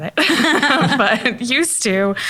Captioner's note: laughs